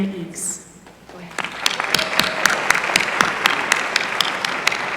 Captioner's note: applause